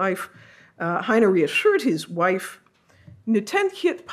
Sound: speaks foreign language

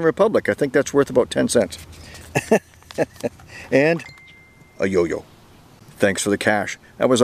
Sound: chuckles

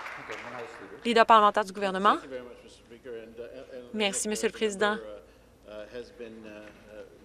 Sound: some Applause

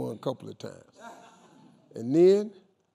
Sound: crowd laughing

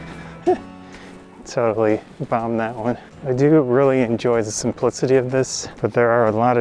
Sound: giggles

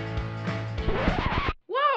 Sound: record scratching

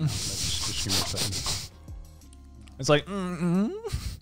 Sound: snickering

